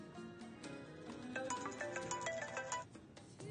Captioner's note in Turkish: telefon çalar